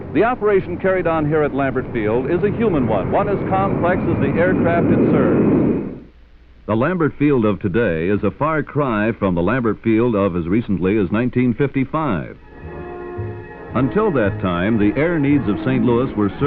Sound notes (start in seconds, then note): 4.8 jet engine roaring